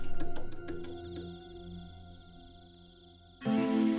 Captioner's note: frog croaks